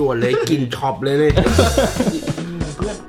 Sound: laughing

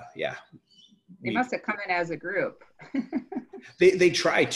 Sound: laughs

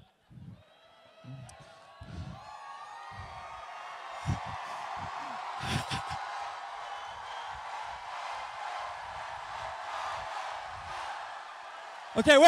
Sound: cheering

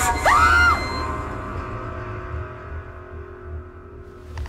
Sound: Maddie screaming

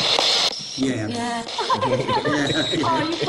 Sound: laughing

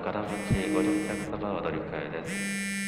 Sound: phone buzzing

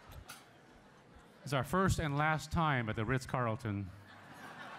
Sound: laughter

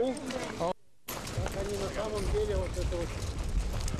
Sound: russian speech

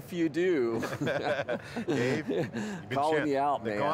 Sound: laughing

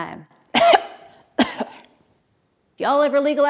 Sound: coughs

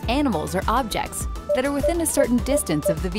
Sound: PDW beeping

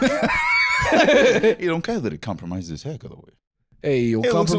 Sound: both laughing

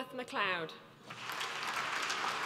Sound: applause

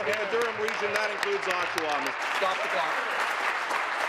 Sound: applause

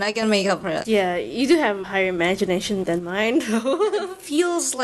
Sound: huehuehue

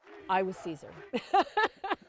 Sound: laughter

